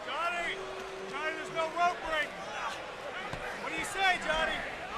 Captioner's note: crowd chatter